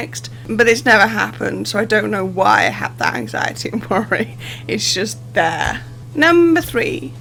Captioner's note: laughing